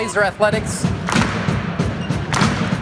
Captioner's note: slow claps